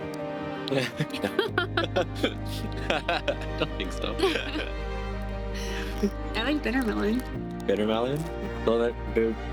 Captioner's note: laughs